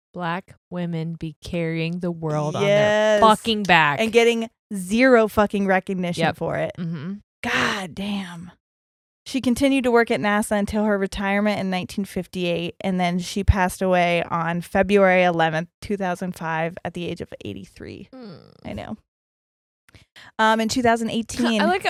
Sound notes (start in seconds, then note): 18.1 groans